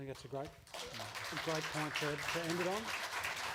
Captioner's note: applause